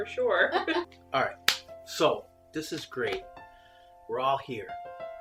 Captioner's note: chuckles